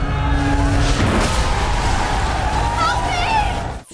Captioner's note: car crashing